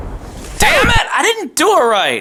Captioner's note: record scratching